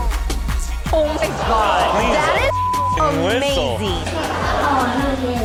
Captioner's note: beep; crowd laughing